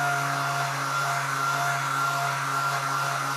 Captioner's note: machine whirrs